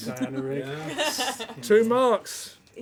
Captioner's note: laughter